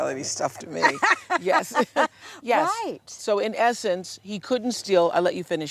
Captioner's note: laughter